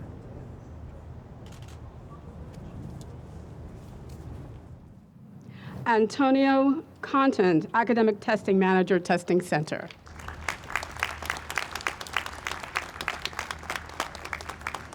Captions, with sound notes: (camera clicks) - Antonio Contant, Academic Testing Manager, Testing Center. (audience applauds)